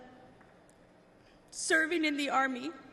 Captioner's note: none